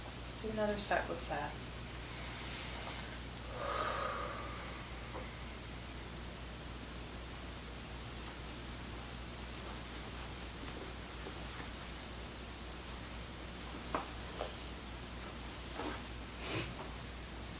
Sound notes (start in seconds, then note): 3.4 deep breathing